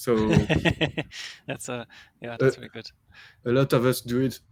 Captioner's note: laughs